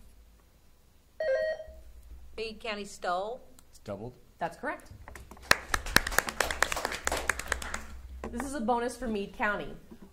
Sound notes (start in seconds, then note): 0.9 buzzer sounding; 5.2 audience applauding